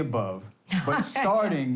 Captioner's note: Renee chuckles